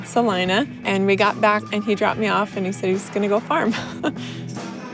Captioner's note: laughs